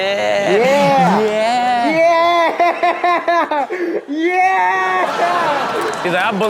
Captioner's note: laughing; audience laughs